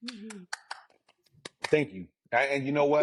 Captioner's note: clapping